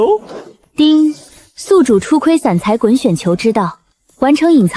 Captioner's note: ding!